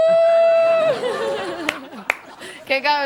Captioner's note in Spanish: Risas